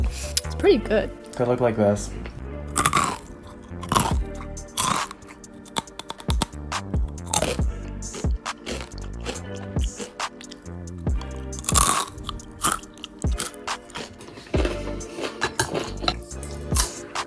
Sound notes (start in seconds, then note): 2.7 cronch; 5.3 more cronch; 17.1 slurp